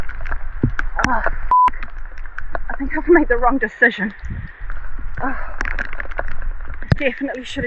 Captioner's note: beep